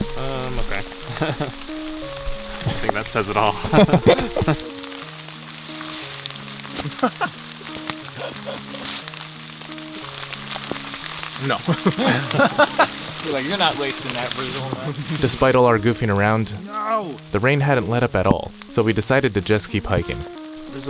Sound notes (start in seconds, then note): 3.5 both laughing; 11.3 laughing